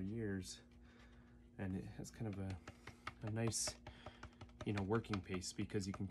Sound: tap, tap, tap

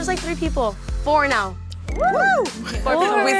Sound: others whooping

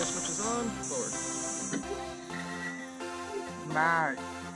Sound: motor running

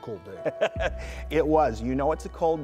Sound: laughing

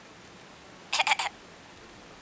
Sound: coughs

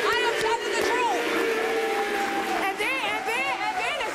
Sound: audience jeers

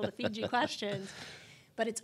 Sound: laughs

